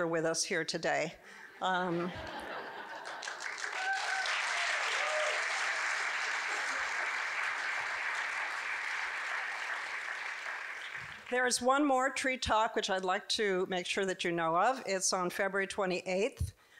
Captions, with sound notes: with us here today. (audience giggling) (audience cheering and clapping) There is one more Tree Talk, which I'd like to make sure that you know of, it's on February 28th,